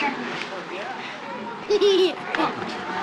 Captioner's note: giggling